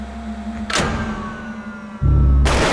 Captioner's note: engines wind down